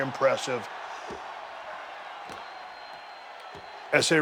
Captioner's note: audience cheering